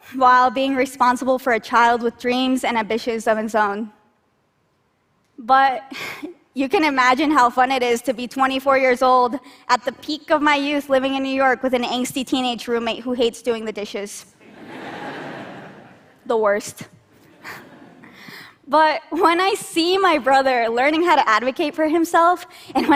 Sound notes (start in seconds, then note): 14.4 laughter; 17.3 laughter